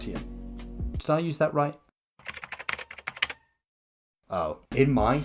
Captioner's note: typing sounds